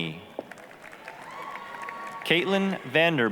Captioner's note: applause, cheering